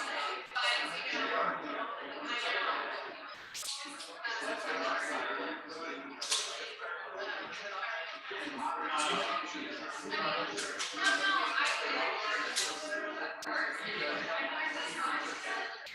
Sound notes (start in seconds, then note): 1.5 people chattering indistinctly continues